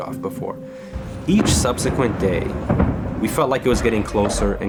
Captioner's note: bomb blast